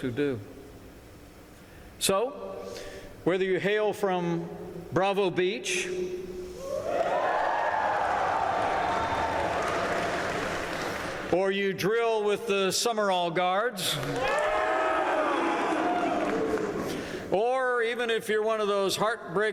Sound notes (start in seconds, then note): 7.7 applause; 15.8 applause